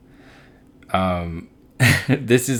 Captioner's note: laughs